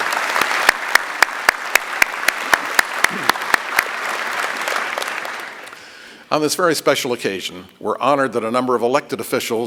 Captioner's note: applause